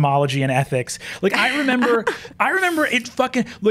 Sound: laughs

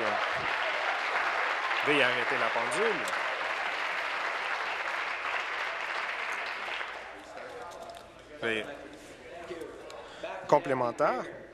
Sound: applause

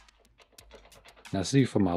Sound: jiggle

